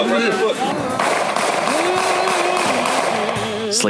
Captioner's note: gun banging